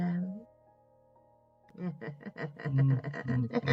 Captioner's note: evil laughter